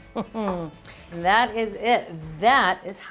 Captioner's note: laughs